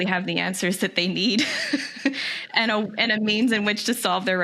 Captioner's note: laughs